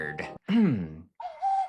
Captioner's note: clears throat